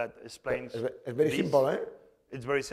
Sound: speaking spanish

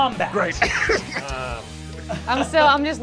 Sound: chuckles

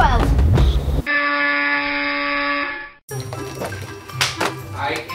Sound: buzzer noise

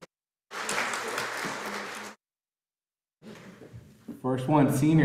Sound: audience applauding

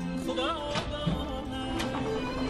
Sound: music playing in the room; door opening

